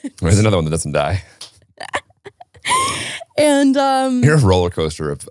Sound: laughing

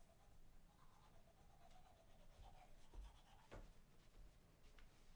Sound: brushing teeth

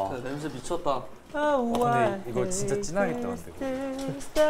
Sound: humming

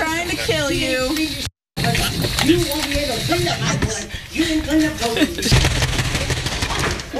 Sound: laugh

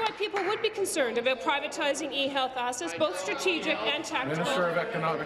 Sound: applause

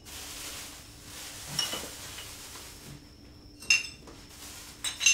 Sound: clinking

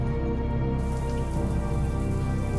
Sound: showers running

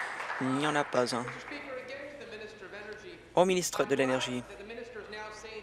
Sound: applause

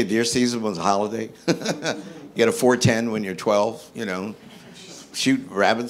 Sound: laughing

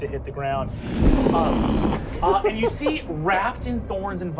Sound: blowing

